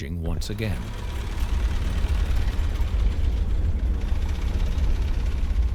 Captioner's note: tank engines droning